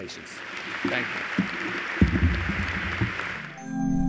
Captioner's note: applause